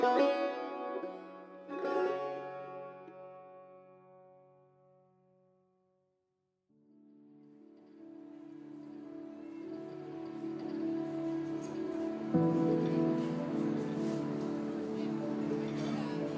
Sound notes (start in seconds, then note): 8.9 peaceful music; 8.9 people murmuring